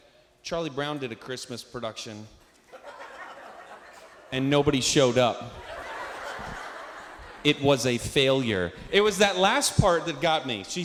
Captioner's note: laughter